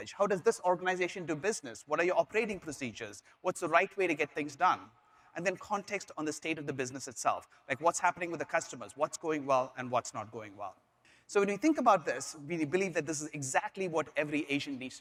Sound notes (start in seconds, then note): none